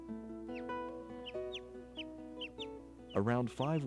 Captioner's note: pups chirping